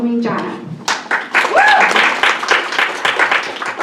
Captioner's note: applause